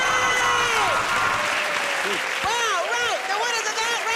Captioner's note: cheers and applause